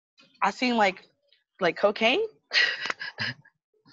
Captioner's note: laughs